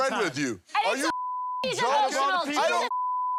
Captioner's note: beep